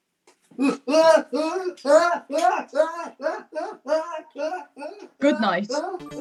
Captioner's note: screams